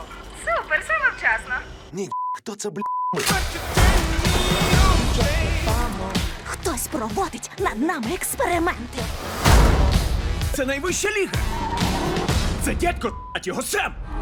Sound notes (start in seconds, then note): 11.3 tires screech